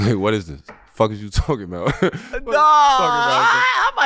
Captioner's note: laughing